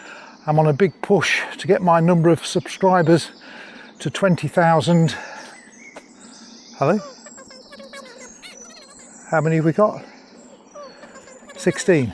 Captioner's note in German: Stimme im Ohr